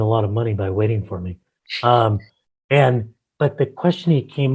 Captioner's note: laughs